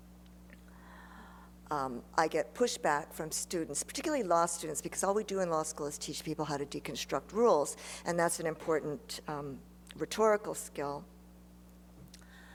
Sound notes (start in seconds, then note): none